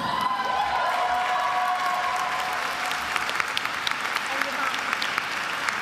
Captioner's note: attendees applauding and cheering